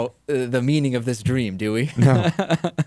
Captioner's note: laughs